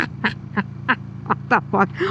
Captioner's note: laughing